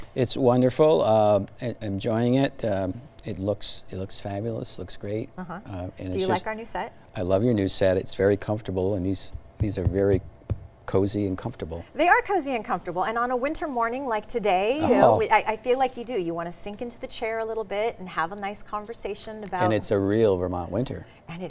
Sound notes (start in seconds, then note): 9.4 chair thuds